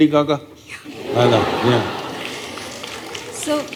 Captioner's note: laughter